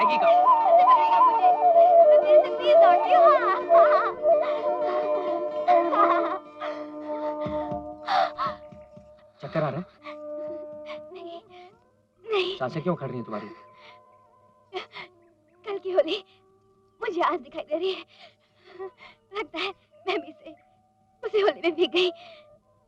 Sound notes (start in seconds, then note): 8.0 panting